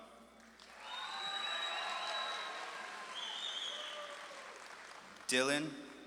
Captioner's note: audience claps and cheers